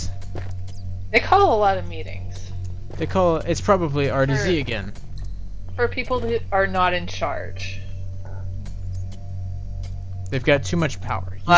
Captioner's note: stompy